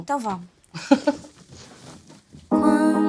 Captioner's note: laughs